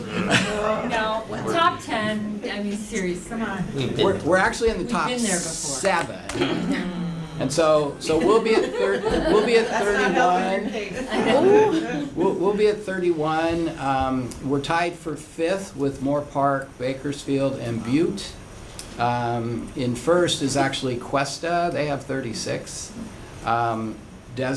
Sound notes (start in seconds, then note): 8.1 laughter